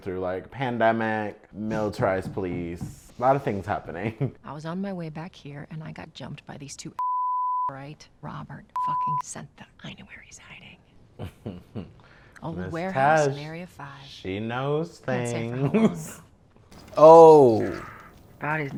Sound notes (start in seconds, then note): 7.0 beeping; 8.8 beeping; 11.2 chuckling